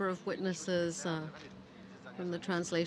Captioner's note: speaking French